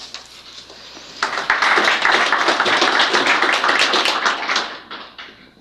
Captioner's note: applause